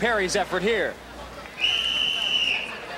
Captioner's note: whistle blowing